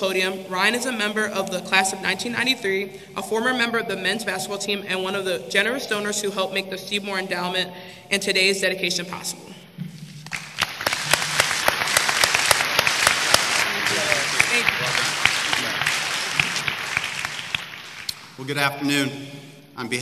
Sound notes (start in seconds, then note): 10.6 applause